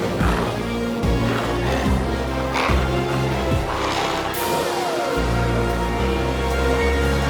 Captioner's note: glowzies growling continues; intense music continues